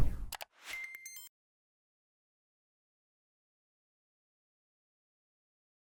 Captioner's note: air whooshing; keys typing; digital beeping